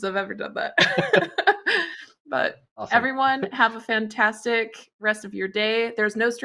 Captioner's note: laughs